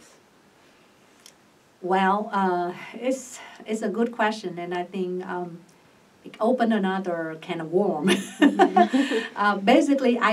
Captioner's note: laughs